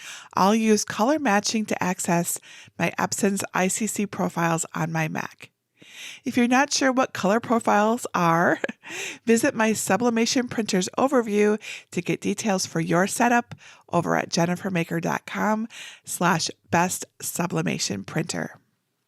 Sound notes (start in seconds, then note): 8.4 chuckling